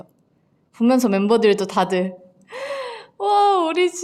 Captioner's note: gasp